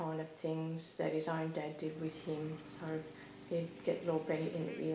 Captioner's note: mower rumbling